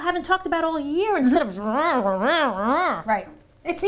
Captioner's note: making eating noises